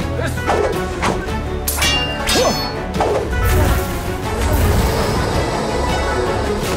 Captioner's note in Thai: เสียงการต่อสู้